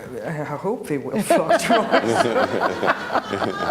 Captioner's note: laughs